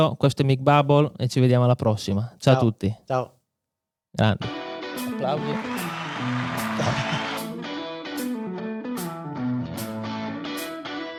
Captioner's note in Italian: Applauso